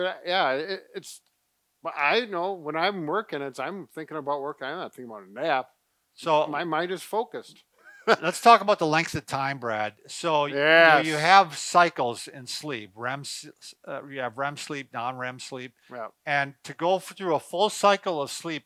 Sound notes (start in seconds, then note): 7.8 laughing